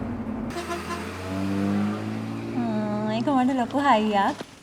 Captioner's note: vehicle honks horn